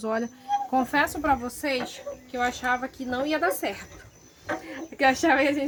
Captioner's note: laughs